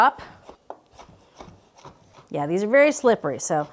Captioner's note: knife whooshing